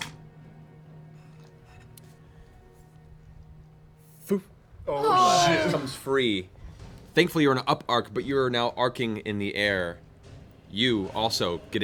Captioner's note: popping